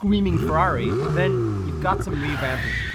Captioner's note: car engine revving